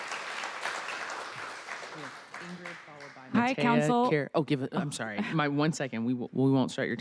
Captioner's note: applause